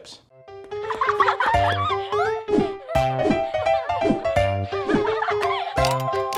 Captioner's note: playful music; children laugh